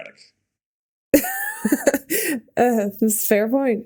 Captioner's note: Mikaela laughing